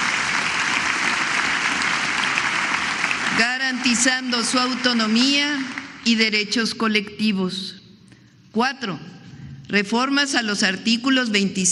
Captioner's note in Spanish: aplausos